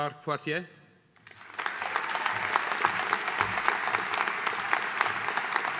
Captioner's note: audience applauding